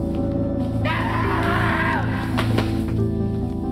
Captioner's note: screaming